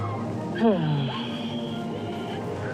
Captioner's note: sighs loudly